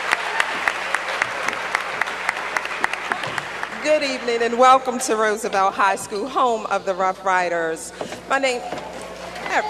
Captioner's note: cheers and applause